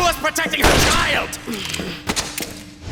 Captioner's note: sighing